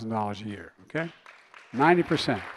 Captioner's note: applause